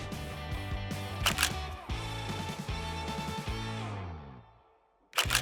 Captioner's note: camera shutters; upbeat music begins